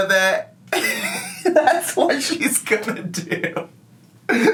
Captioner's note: laughs